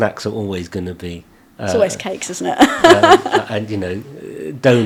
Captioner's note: laughing